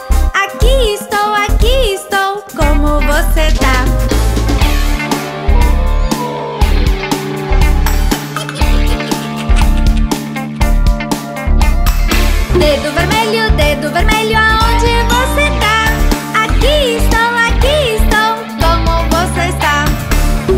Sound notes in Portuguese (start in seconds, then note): 4.1 Música Hallowen; 4.1 Risos